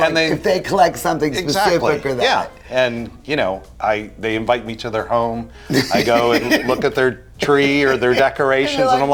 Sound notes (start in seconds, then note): 5.7 laughing